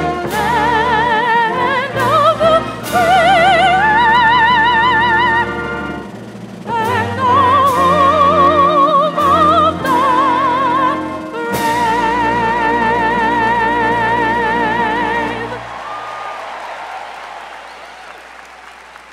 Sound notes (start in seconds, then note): 15.4 applause